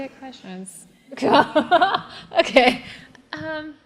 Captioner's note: laugh